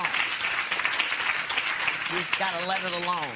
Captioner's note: applause